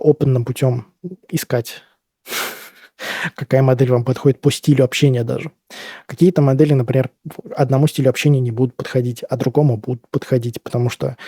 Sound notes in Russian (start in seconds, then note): 1.8 фыркает